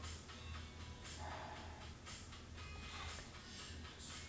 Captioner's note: sighing